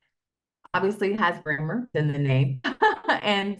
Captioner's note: laughs